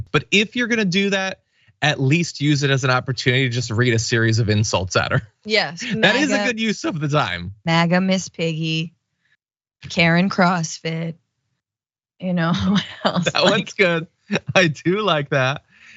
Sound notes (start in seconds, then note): 12.5 laugh